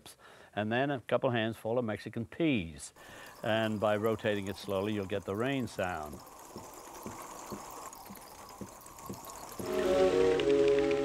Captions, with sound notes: and then a couple of handsful of Mexican peas. And, by rotating it slowly, you'll get the rain sound. (SOUND OF RAIN PATTERING)